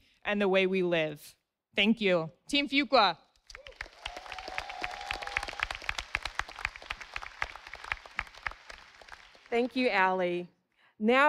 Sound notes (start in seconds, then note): 3.5 audience applauding